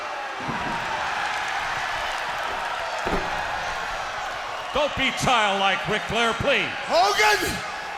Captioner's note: crowd cheering